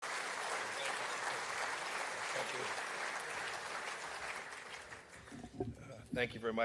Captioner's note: applause